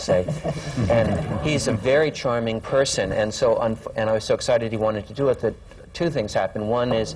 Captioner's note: laughter